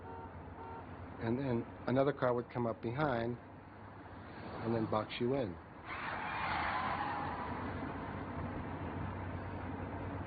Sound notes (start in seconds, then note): none